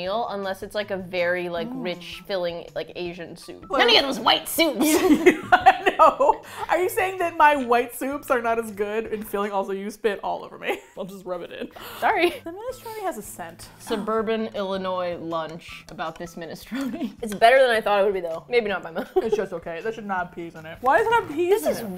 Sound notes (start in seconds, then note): 4.8 laughing; 4.8 both laugh; 16.6 laughs